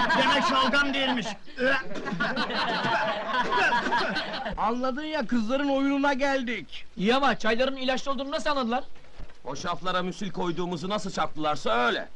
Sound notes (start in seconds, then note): 1.7 laughter